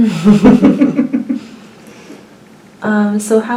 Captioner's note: laughs